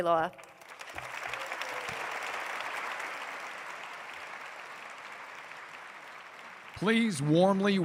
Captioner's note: applause